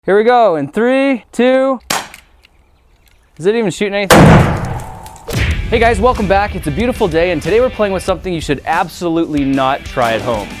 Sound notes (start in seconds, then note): 1.8 crack; 4.1 explosion